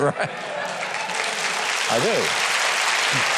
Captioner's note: audience claps